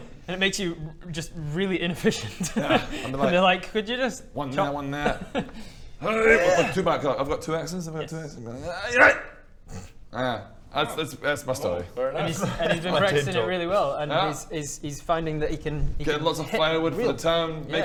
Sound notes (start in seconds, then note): 6.2 hrrrrghh; 8.9 aahyygh!